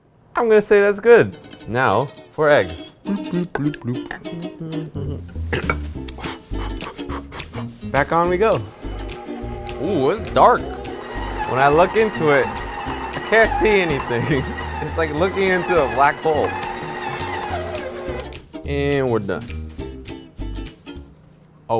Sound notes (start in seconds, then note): 3.1 humming; 4.3 blowing; 19.4 upbeat music